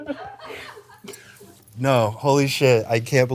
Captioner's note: crew laughing